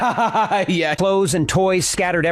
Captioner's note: laughs